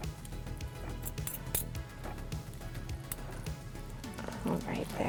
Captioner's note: forks tinking